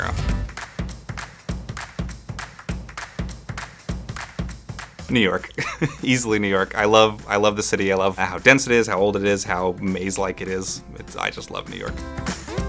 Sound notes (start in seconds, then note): 5.5 laugh